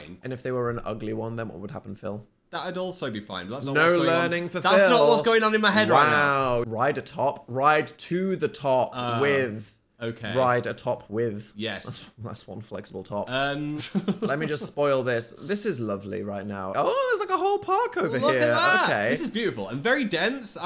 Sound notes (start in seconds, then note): 13.6 laughs